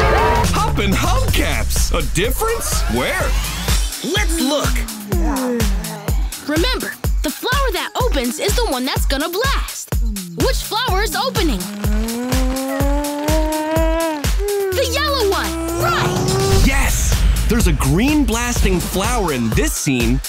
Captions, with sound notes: Hoppin' hubcaps, a difference? Where? Let's look. Remember, the flower that opens is the one that's gonna blast. Which flower is opening? [yawning] The yellow one, right! Yes, there's a green blasting flower in this scene,